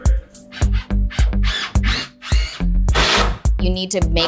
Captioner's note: drill buzzing